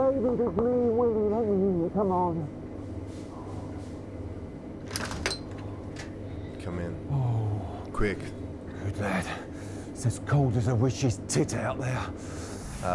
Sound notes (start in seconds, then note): 4.8 door clicking